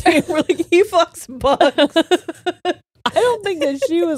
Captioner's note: all laughing